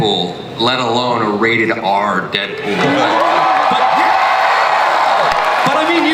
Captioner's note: audience cheers